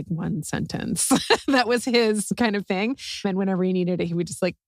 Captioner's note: laugh